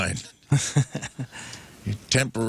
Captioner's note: laughing